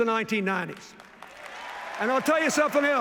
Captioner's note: cheers, applause